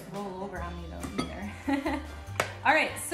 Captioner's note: laughs